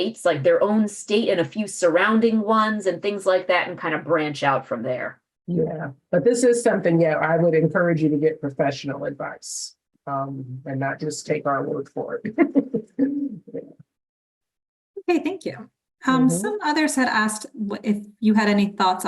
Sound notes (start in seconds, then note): 12.2 laughs